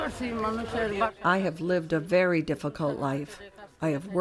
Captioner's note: through translator